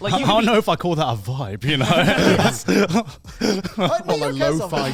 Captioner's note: laughs